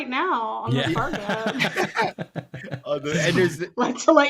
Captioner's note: laughing